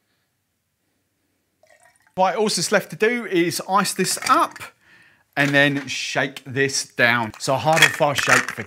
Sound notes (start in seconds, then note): 1.6 pouring liquid; 4.1 ice clinking